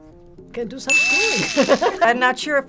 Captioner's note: laughs